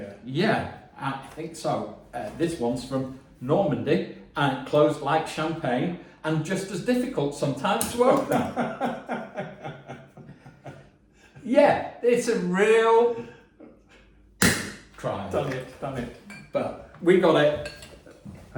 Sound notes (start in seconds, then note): 8.0 laughing; 14.4 cork popping